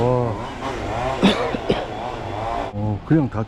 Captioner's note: cough